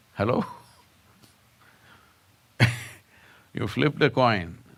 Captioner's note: laughs